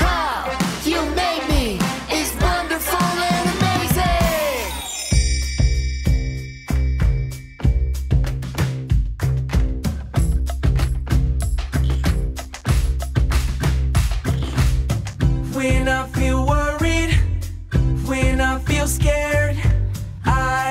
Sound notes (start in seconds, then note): 4.8 stars twinkling; 5.0 bright playful music